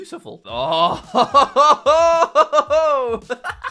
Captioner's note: laughs